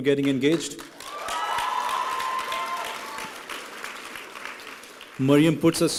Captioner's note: applause and cheering